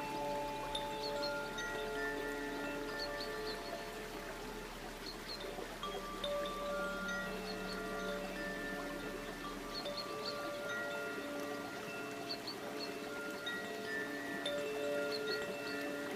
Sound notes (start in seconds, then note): 4.7 bells lightly chiming; 4.7 water babbling